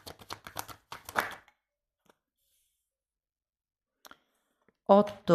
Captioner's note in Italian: Applauso